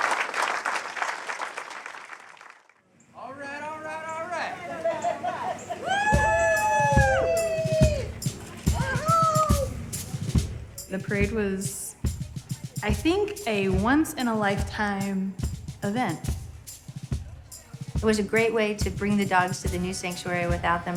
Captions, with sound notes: All right, all right, all right. [CHATTER] [CHEERING] We're home. The parade was, I think, a once-in-a-lifetime event. It was a great way to bring the dogs to the new sanctuary